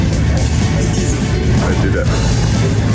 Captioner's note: laughs